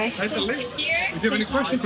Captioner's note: hoots